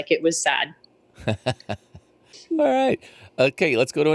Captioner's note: laughs